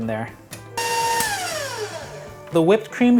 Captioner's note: appliance whirring